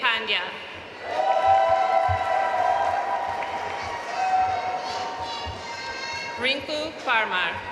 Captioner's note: audience cheering and applauding